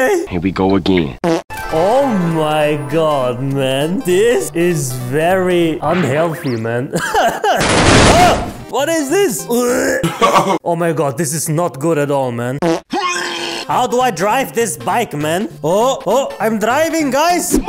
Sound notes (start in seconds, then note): 6.8 laughs